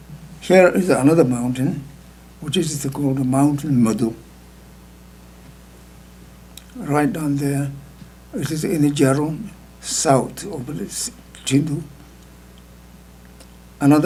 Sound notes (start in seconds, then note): 3.8 speaking tibetan